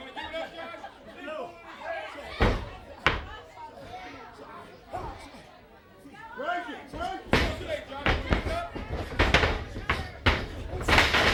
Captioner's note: crowd chatter